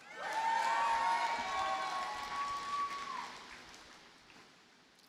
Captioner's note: audience cheers and applauds